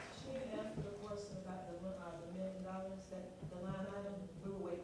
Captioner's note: applause